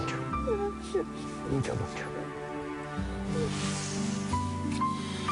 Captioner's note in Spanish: solloza